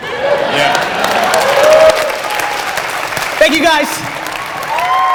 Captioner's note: audience laughter and applause